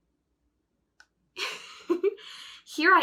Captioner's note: chuckles